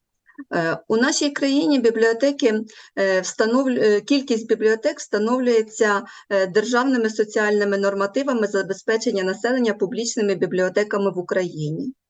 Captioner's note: foreign Language